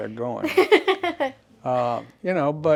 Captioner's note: laughs